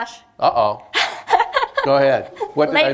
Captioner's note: laughs